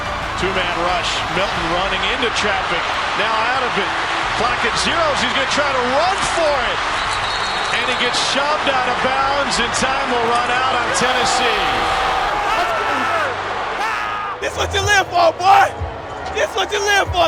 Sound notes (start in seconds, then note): 11.8 cheering